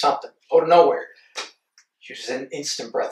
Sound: Landen's hand slaps knee

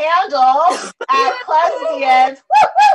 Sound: cheering

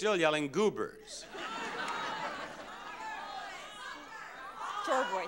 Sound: audience laughing

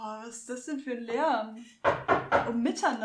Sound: knocking

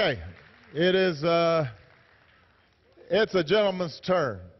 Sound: applause

